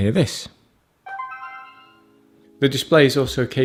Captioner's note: notification sound